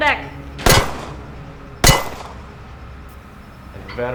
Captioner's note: gunshots boom